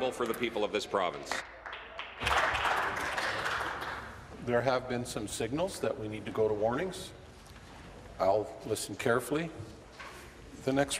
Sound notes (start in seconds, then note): 4.8 applause